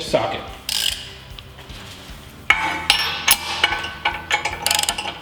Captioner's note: clicking of wrench